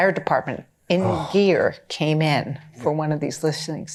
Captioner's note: sighing